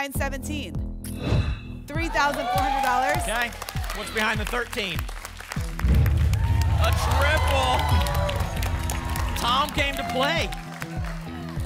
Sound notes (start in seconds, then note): 1.1 whoosh; 5.8 rumbling sounds; 8.0 applause and cheering